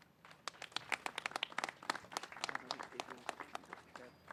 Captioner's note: applause